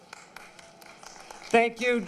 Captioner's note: applause